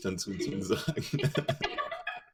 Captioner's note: giggles